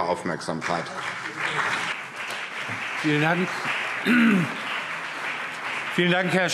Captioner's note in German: Beifall CDU und BÜNDNIS 90/DIE GRÜNEN